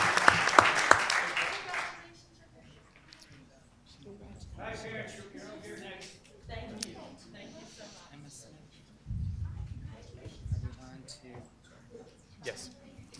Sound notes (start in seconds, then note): 2.4 group chatter